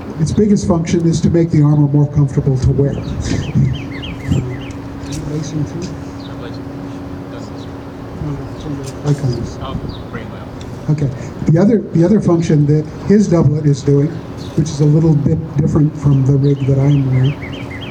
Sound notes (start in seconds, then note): 3.0 laughs